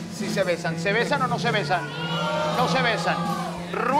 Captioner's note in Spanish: Gritos